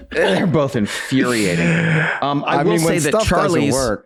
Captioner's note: all laugh